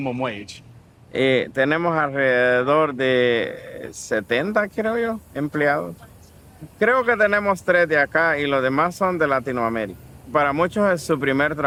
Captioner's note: speaking in foreign language